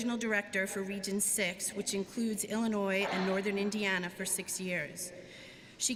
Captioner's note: none